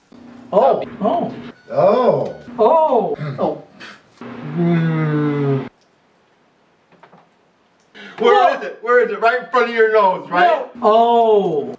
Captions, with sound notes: Oh! Oh! Oh! Ohhhhhh! Oh! Pfft! Hmmmmmm! (Contemplative Silence) Where is it? Where is it? Right in front of your nose, right? Ohhhhhhh!